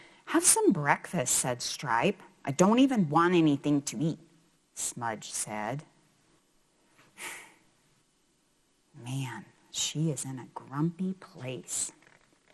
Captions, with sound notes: Have some breakfast, said Stripe. I don't even want anything to eat, Smudge said. (sigh) Man, she is in a grumpy place.